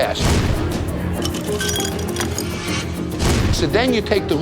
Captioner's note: ice tinkling